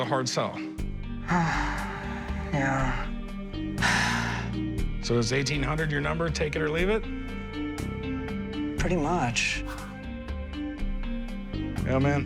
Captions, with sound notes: AND I SEE IT AS A HARD SELL. - [sighs] YEAH. [sighs] - SO IS 1,800 YOUR NUMBER, TAKE IT OR LEAVE IT? - PRETTY MUCH.